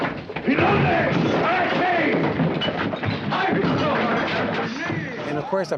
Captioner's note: objects clattering; group yelling